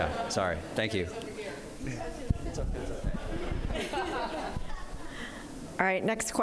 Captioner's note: laughter